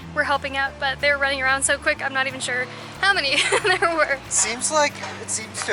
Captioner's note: laughter